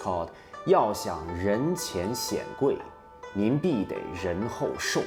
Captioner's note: speaks in Chinese